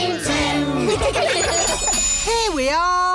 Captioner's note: laughter